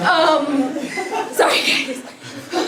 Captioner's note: laugh